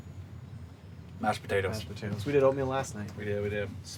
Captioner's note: none